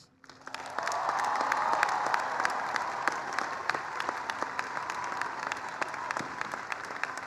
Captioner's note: applause